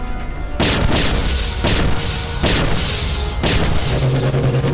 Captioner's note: laser blasts